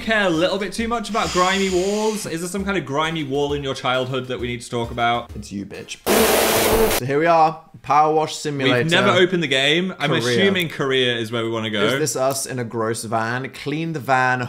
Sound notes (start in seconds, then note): 6.1 liquid hissing